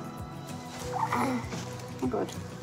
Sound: fusses

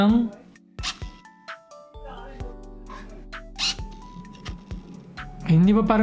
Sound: autofocus motor sound

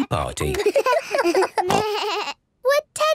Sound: giggles, snorts

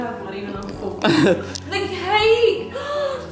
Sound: laughs

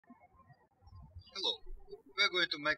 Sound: birds chirping

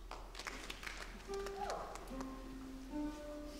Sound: applause

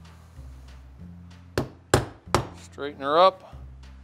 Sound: hammer tapping

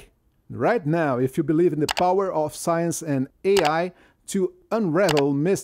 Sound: click

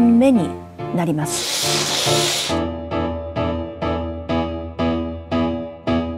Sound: curtains sliding open

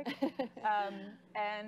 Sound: laughing

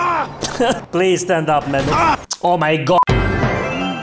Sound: augh

